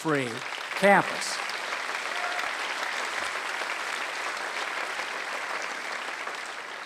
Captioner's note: applause